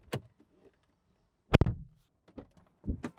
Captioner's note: door Thud